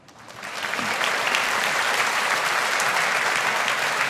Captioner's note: audience applauding